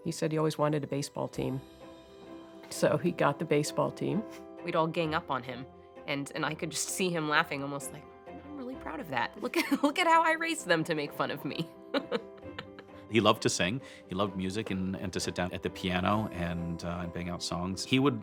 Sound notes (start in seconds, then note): 9.2 chuckle; 11.9 laughing